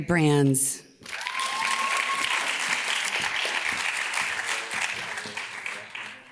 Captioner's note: audience cheers and applauds